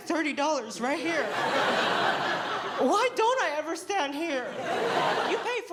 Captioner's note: laughter; laughter